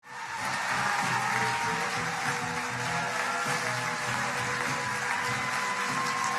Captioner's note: crowd cheering; crowd clapping